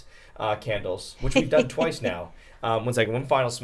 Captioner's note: snickers